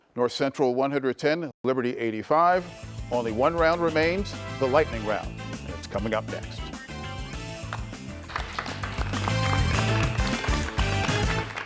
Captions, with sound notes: North Central, 110, Liberty, 85. Only one round remains, the lightning round. And it's coming up next. (audience applauds)